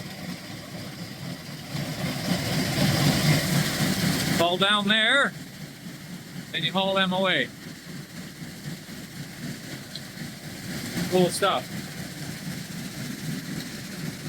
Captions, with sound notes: (engine rumbling) Fall down there and you haul them away. Full stop.